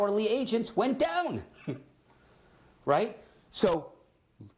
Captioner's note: chuckles